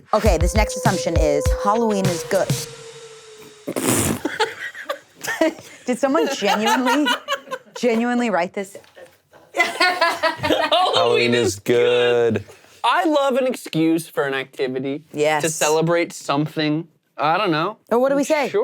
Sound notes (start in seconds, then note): 3.8 laughing; 6.2 laughs